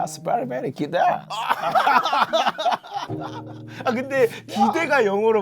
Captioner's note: hahahaha